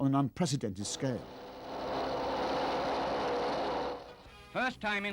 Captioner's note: humming, rumbling